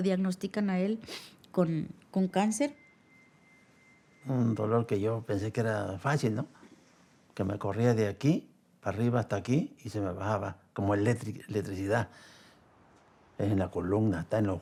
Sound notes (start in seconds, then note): 6.1 man speaking Spanish